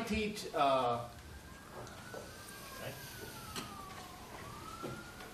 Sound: sirens in background

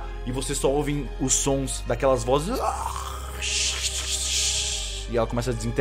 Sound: uuuuh shhhhh

